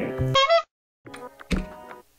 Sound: clown honking

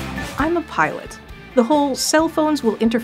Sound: voiceover

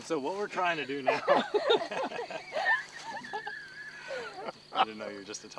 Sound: laughter

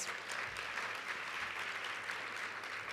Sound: applause

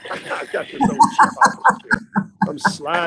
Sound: laughing

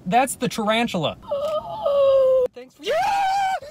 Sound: shrieking; screams

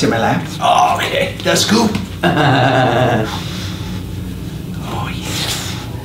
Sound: laughs

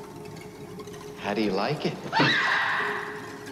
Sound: she screams

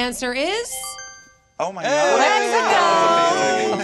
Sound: twinkling

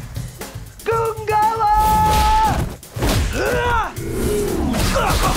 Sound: yelling and grunting; grunting

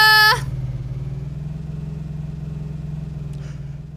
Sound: engine roaring

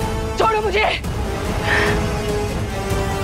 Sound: sighs

